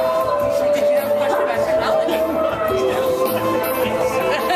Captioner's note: laughs